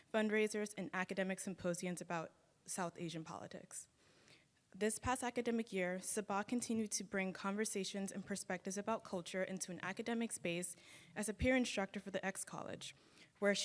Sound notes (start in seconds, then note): none